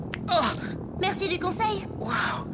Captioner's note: snaps fingers